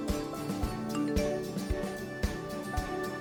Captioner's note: phone beeps